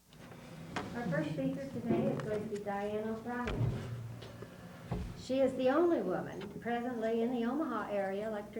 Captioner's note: none